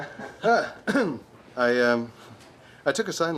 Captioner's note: clearing of throat